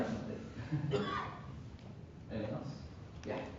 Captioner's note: chuckling